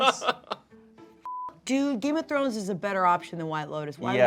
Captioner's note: beep